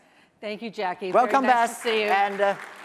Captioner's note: applause